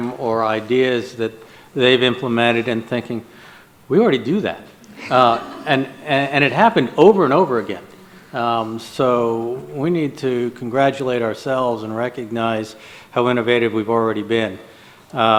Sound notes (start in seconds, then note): 4.8 audience laughs